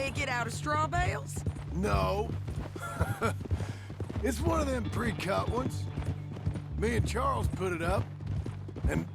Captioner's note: laughs